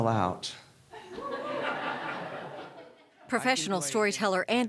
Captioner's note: laughter